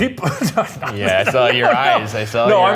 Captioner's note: laughs